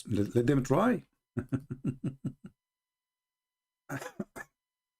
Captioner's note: Ketawa